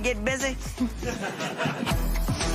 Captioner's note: laughter